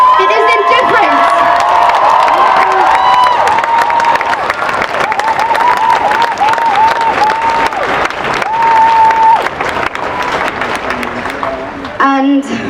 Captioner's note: cheering and applause